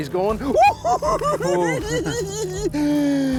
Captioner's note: giggling